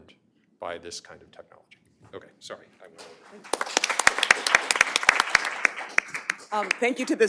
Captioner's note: applause